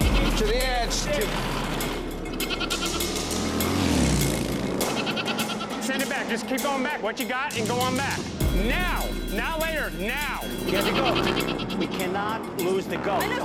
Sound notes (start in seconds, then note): 1.9 goat bleating